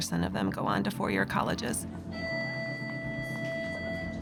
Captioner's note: bell rings